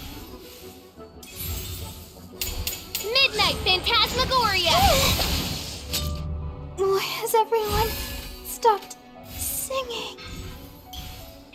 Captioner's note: burst